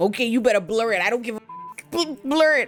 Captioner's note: beep